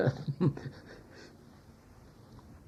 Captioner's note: laughs